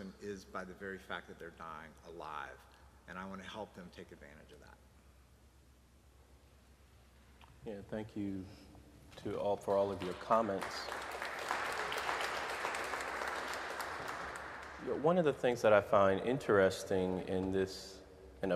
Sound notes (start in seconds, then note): 11.4 audience applauding